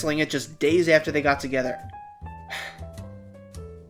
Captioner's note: sigh